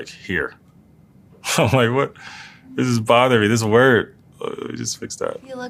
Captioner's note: laugh